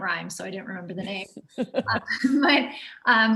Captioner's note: laughs